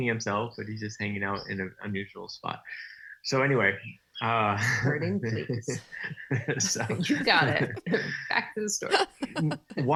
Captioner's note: laughing